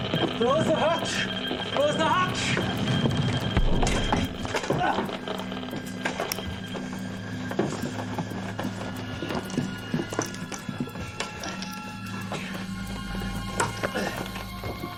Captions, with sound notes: Close the hatch. Close the hatch. (device crackling rapidly)